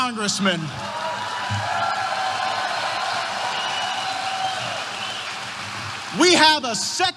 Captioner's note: applause